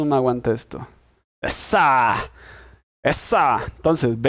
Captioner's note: happiness noises